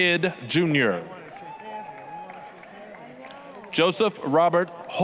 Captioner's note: applause, cheering